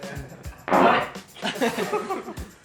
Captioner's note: massive fart